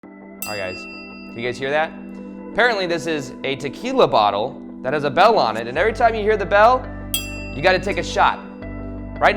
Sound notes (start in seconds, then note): 0.4 bell ringing; 7.1 bell ringing